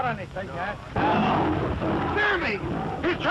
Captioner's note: roaring